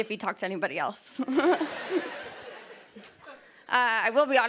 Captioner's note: laughter